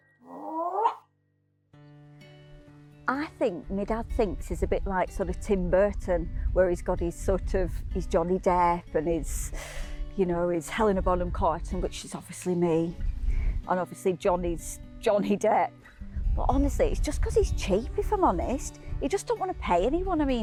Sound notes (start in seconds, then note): 0.3 Barry yelps; 2.8 laid back music